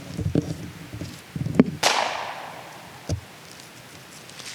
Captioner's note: clap echoes